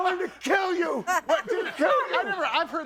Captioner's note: audience laughing